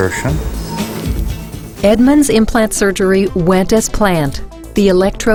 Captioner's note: voiceover